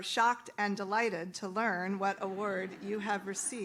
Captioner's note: audience laughs